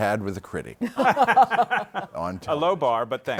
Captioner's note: laughter